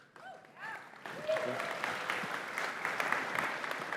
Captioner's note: cheers, applause